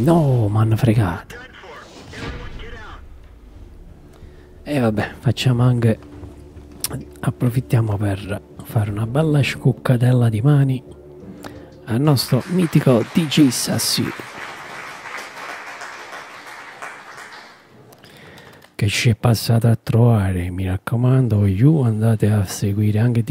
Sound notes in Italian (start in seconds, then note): 11.9 Applauso